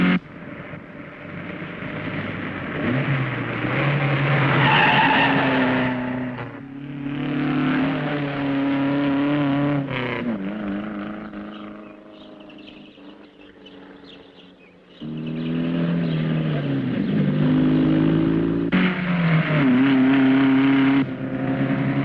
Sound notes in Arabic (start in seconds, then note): 4.9 صرير الإطارات; 7.7 صوت المحرك; 19.1 هدير المحرك